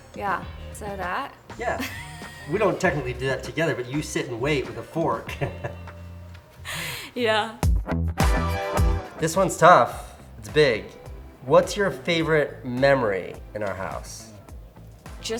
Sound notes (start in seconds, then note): 1.6 laughs; 5.0 laughs; 7.9 upbeat music